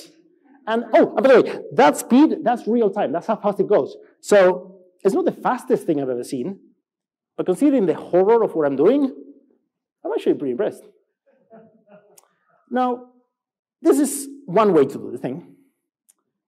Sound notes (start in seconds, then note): 11.4 laughs